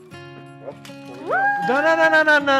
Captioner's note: exclaims